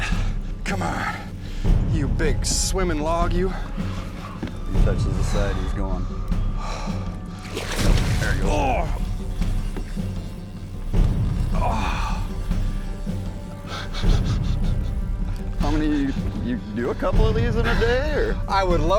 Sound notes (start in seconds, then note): 8.7 grunts